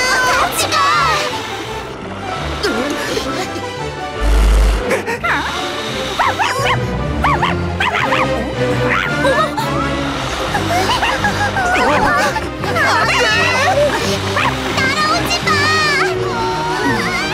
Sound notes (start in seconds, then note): 2.2 exciting music; 5.2 dog barking